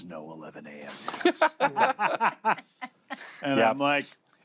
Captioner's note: laughter